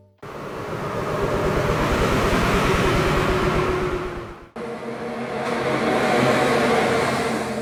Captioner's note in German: Zugvorbeifahrtgeräusch